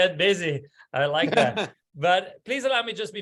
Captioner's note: laugh